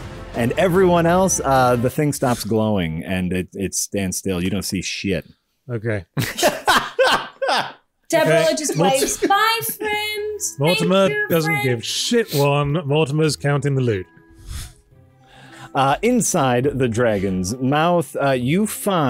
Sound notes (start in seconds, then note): 6.1 laughter